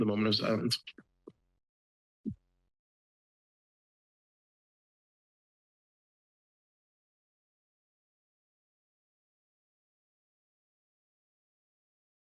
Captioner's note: silence